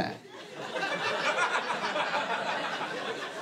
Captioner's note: laughter